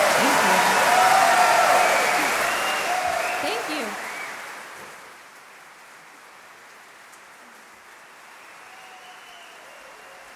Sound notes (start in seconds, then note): 0.0 applause; 8.0 faint applause